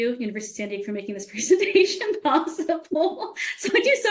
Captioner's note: laughing